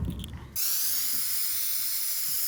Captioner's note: hissing